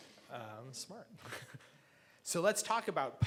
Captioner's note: laughs